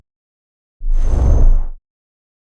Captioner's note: whooshing